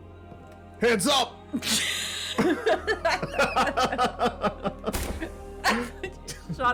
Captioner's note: laughs